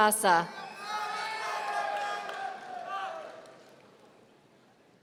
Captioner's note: audience cheering